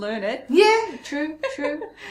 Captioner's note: laughs